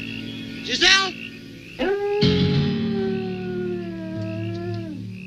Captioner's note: wolf howling; crickets chirping